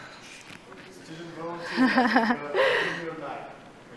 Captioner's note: laughter